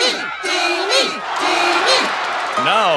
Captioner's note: cheers